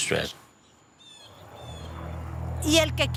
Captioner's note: birds cawing